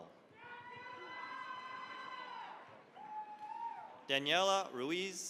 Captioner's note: cheering, applause